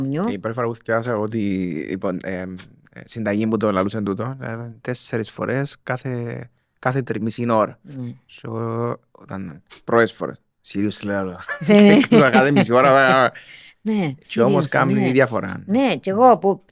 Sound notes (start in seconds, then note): 11.5 she laughs